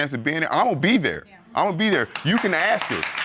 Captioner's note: audience applause